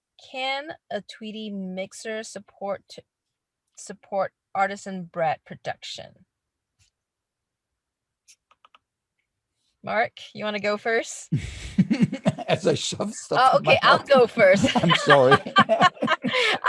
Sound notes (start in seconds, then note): 11.4 laughing